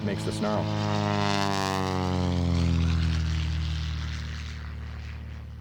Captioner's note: propellor whirring loudly